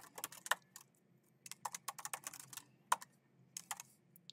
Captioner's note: keyboard clacking